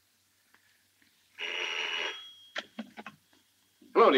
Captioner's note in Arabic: يرن الهاتف